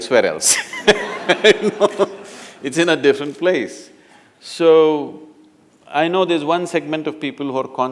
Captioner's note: laughter